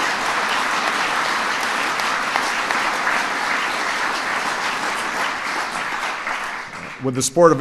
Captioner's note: applause